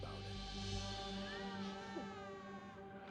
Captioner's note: baby crying